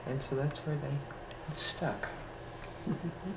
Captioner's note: laughter